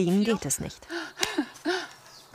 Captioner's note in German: Sie keucht